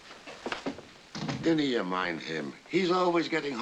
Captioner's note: irish accent